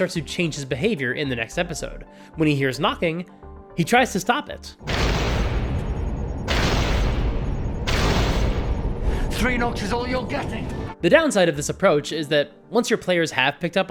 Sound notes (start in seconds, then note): 4.9 thud. Thud. Thud